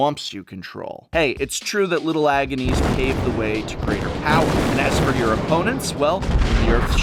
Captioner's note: explosions